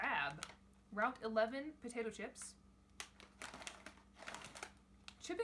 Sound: package crinkles

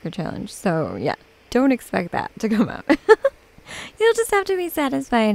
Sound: giggles

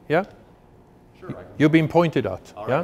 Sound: voiceover

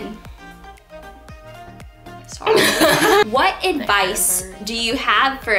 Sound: laughter

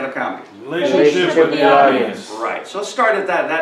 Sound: O.S. students in unison

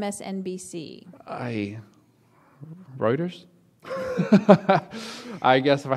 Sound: laughs

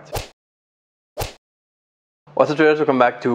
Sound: swooth

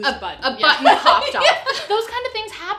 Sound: laughs

